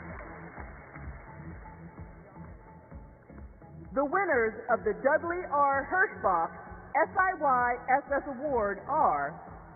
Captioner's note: applause